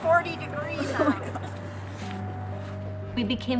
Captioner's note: chuckles